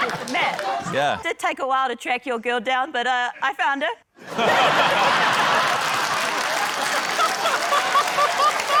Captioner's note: laughter, applause